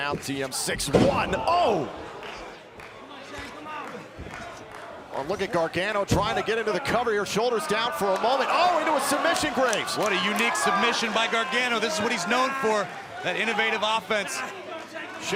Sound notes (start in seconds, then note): 3.4 crowd chatter